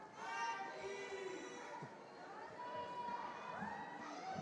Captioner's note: attendees cheering